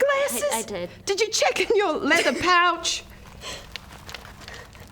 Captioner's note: giggle